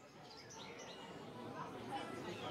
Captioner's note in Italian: Rumori di folla